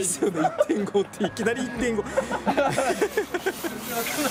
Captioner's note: laughs